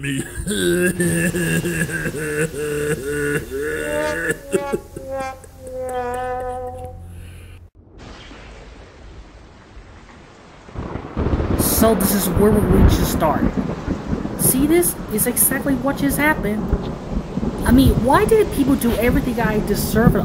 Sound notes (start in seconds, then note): 0.0 pathetic sobbing; 7.8 thunder; 10.4 thunder claps